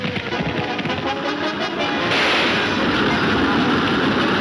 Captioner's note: gunshots banging